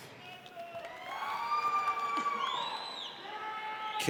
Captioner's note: audience cheers